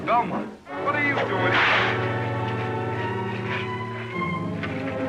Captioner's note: cracking whip